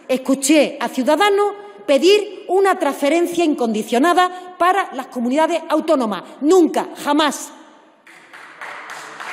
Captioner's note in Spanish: Aplausos